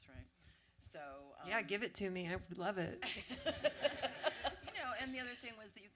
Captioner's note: audience laughter